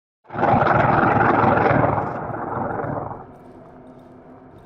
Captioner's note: chomper snarling